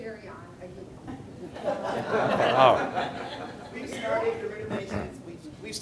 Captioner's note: audience laughing